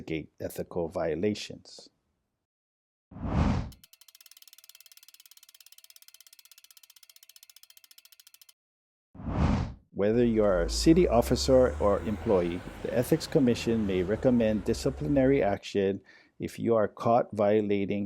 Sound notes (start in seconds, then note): 3.2 whoosh; 3.6 compass spinning; 10.2 trolley passes